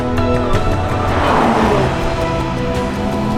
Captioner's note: vehicle revs